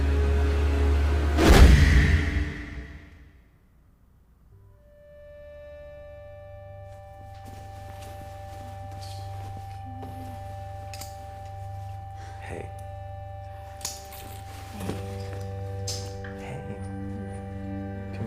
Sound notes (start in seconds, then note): 0.0 suspenseful music; 1.4 whooshing; 4.7 light dramatic music